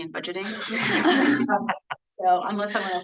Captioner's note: everyone laughing